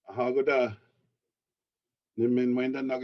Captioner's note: speaking foreign language